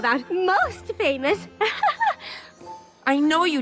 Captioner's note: giggles